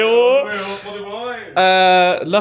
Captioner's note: both bellow